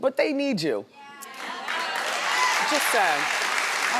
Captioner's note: audience cheering